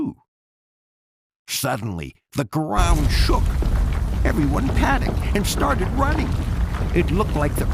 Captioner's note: tremor